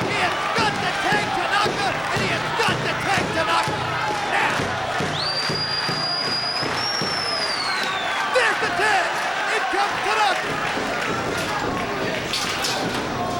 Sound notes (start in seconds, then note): 5.2 fan whistling